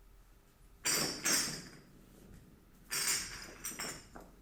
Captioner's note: glass clinking